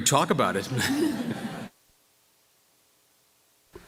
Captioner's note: laughter